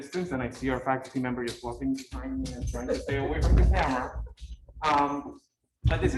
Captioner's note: laugh